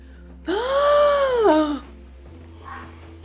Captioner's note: gasps